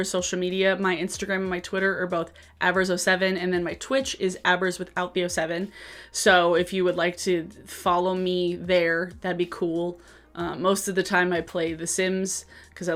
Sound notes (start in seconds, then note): none